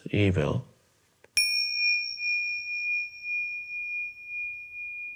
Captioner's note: bell dinging